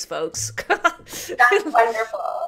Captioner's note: laughs